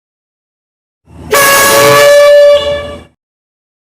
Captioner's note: air Horn